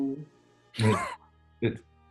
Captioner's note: sniggers